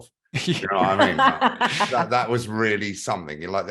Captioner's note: burst to laughter